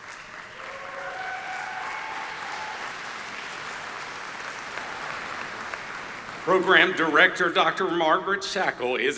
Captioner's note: applause